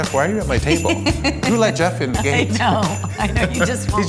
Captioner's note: laughs